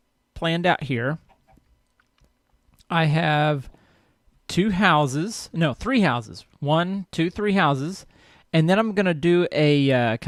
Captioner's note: chicken clucks